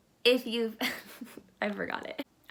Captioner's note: laughter